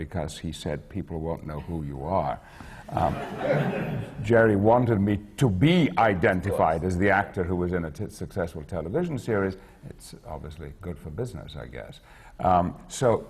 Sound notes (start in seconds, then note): 3.0 laughter